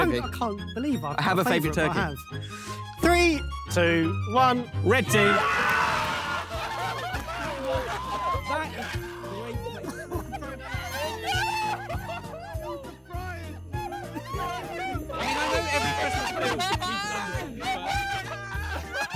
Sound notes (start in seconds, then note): 5.0 Red Team cheering; 8.0 upbeat Christmas music